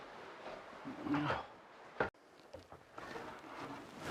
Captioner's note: Mercer grunts